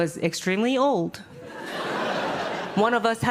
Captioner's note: audience laughing